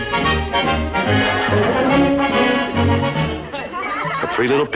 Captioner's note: laughter